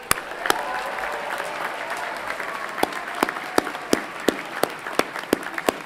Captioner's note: everyone clapping and cheering